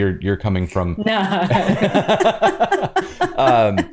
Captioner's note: laughter